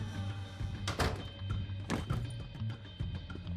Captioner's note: door shutting closed; tense music